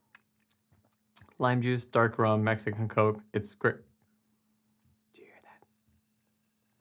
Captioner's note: whispered